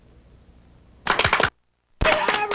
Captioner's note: applause